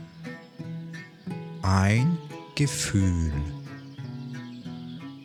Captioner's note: german